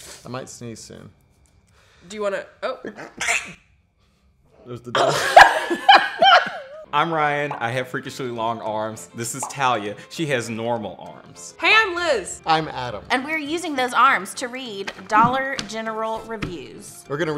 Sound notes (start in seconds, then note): 2.8 sneezes; 4.9 both laughing